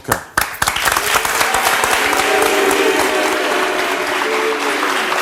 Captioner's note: audience applauds and boos